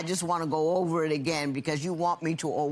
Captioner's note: none